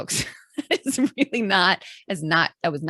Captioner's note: chuckles